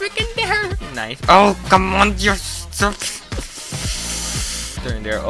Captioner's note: inhales